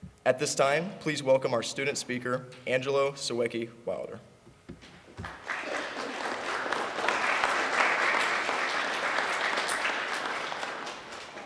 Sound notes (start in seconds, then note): 5.2 applause